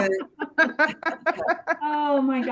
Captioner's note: laughter